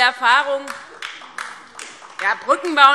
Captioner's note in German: Beifall DIE LINKE und vereinzelt SPD